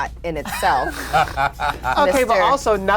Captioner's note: both laugh